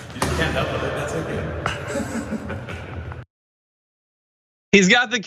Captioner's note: laugh